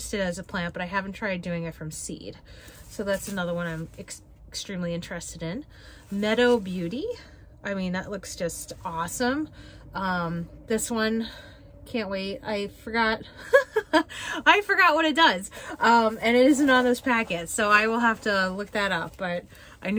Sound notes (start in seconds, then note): 13.4 laughs